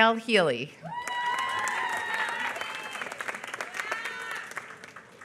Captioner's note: applause